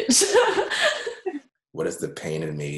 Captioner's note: laughs